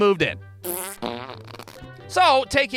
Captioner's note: frrrrrrrrt